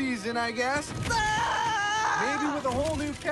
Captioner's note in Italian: urla